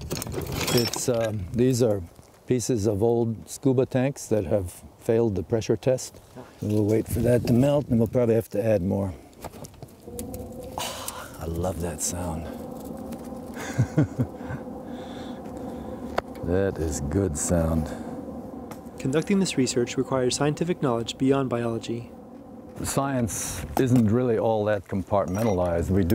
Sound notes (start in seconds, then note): 13.5 laughs